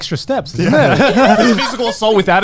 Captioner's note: laughing